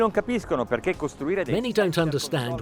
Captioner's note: speaking in foreign language